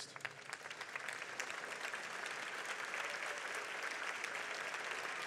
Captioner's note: audience applauds